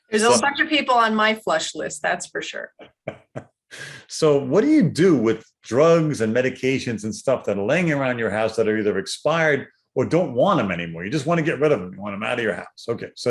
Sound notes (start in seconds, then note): 2.8 laughs